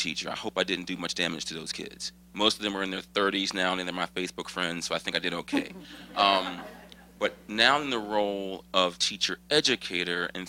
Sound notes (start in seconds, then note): 5.5 laughter